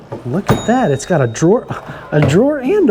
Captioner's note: bell dings